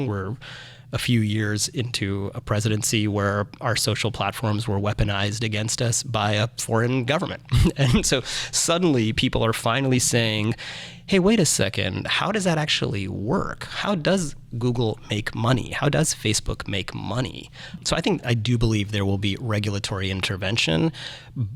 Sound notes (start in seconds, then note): 7.4 chuckles